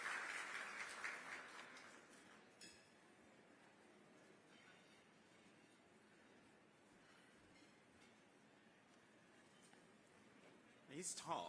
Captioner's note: applause